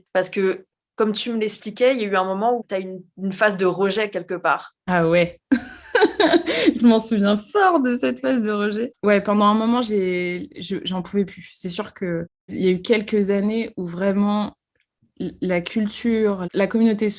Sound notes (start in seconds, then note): 5.6 laughs